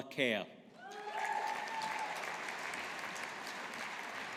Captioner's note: audience applauding